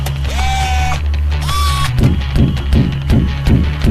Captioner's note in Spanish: Sonidos DE ROBOT